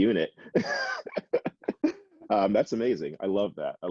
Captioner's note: laughs